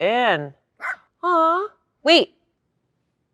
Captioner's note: dog barks